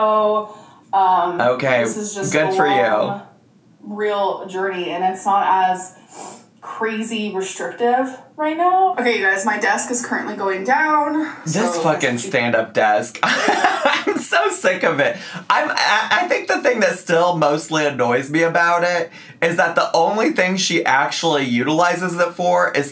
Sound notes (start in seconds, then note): 13.1 laughing